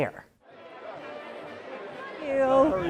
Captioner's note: crowd chattering